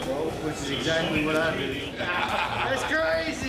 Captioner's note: laughter